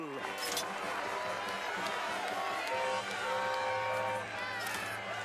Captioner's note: crowd Cheers; engines Toot